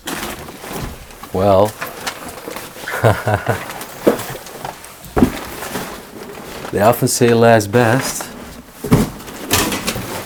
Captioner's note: laughs